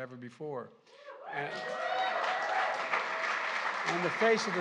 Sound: applause

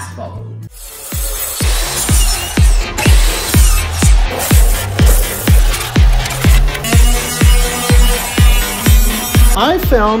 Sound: woodworking sounds

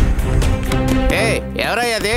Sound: knocking the door

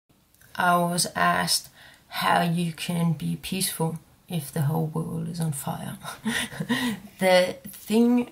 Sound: laughs

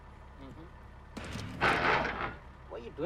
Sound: loud grinding sound

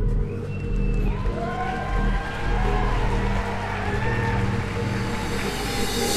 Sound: crowd cheers and applause

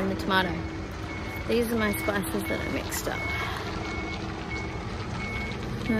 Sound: vehicle reversing beep in background

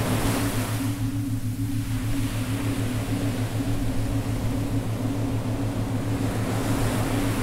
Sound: waves crashing loudly; sonorous synth tone

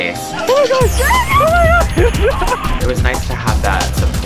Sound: shouts of joy

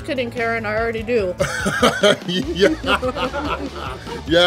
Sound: hahaha

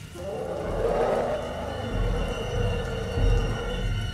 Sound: roaring

